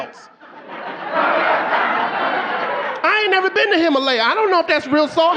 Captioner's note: audience laughing